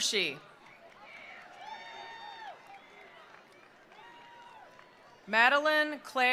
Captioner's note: attendees cheering; attendees applauding